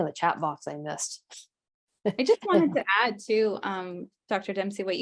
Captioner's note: chuckles